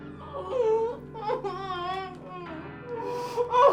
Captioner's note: Kathy crying